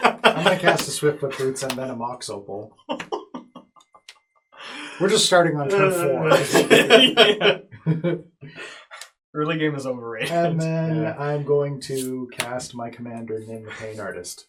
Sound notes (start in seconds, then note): 2.9 continue to laugh; 5.7 all laugh